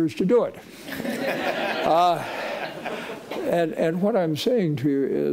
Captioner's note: audience laughing